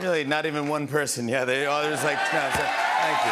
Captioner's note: cheers and applause